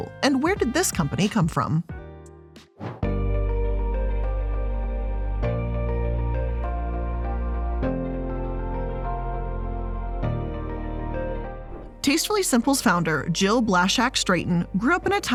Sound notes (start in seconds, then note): 3.2 air whooshing; 3.2 mellow music